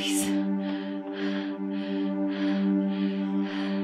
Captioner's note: breathing heavier